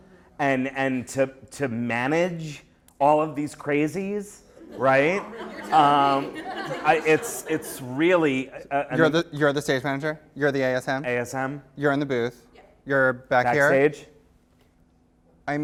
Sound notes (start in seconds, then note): 5.8 voiceover; 6.5 laughter; 7.3 voiceover